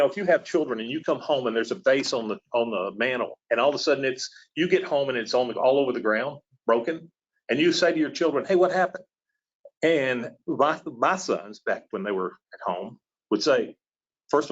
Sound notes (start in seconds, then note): none